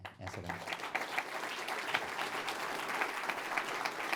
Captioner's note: applause